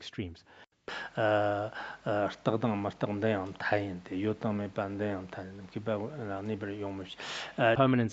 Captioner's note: citing scripture in Tibetan